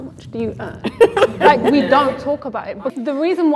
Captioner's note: laughs